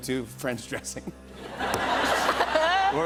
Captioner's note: laughter